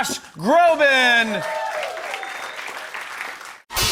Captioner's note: cheers and applause